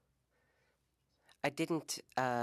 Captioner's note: speaking French